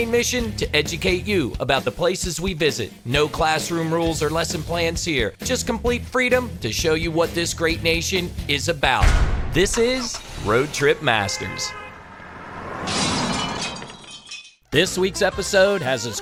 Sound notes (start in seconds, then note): 12.8 glass breaking